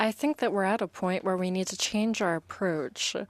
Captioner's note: speaking in French